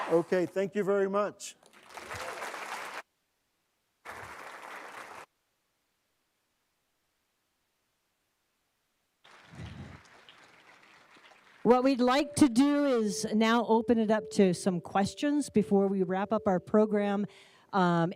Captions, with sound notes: OK. Thank you very much. [APPLAUSE] What we'd like to do is now open it up to some questions before we wrap up our program.